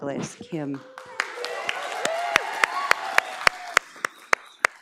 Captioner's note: audience applauds